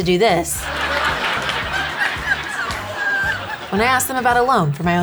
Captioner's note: audience laughing